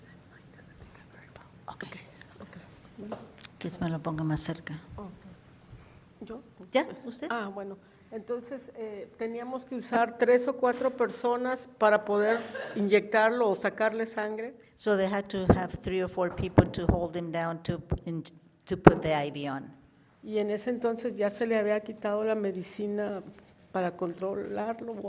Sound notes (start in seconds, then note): 0.2 soft chattering; 3.9 woman speaks in foreign language; 20.6 woman speaks in foreign language